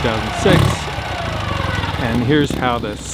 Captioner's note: engine roaring